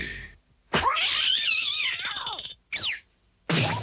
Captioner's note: snap